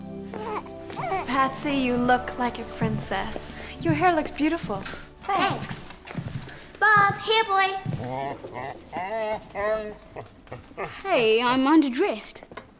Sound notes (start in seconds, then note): 0.3 baby coos; 7.9 dog groans